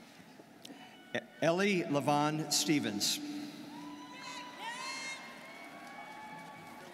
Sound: students cheering

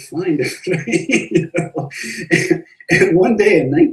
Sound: laughs

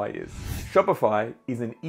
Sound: air whooshing

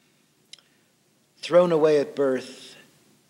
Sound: none

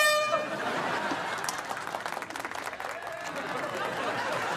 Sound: air horn sounding; audience clapping, cheering

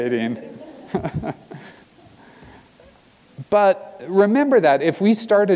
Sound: laugh

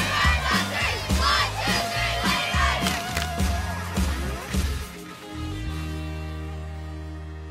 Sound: clapping

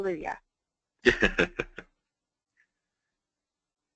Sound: laughter

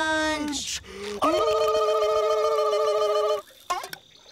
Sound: victory screeching

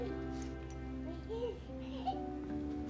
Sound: baby cooing happily

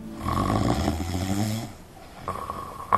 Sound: loud snoring

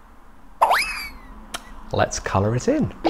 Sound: object whirs

